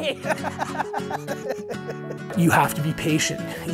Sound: laughing

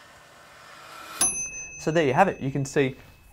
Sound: wind-up motor buzzing; timer bell ringing

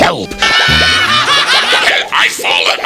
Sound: laughter

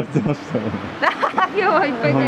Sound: laughter

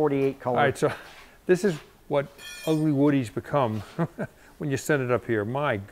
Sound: laughs

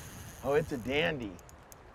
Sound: reel spinning

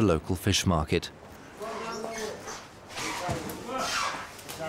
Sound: stall holders shout

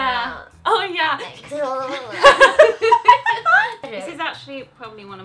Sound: laughing

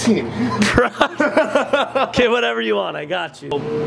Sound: laughs

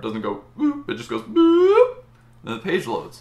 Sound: short smooth ooh

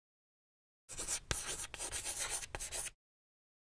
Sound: chalk scratching on board

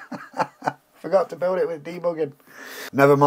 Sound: laughs

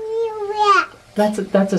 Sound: babbles

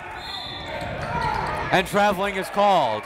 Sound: whistle

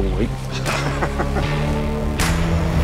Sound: chuckle

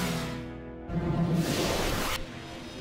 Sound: suction noises

